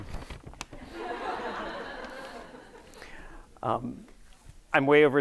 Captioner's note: audience laughing